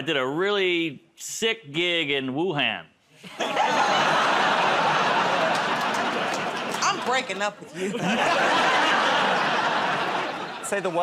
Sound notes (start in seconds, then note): 3.2 laughter, groaning; 7.7 laughter